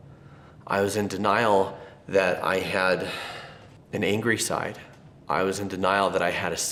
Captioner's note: sighs